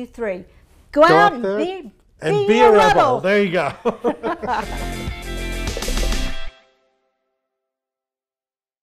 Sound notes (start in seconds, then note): 3.3 laughing; 5.0 upbeat music